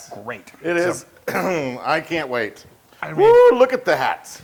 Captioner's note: cough